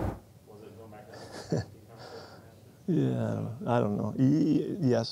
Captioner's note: chuckles